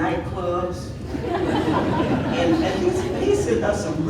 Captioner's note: audience laughing